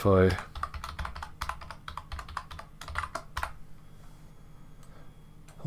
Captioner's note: keyboard typing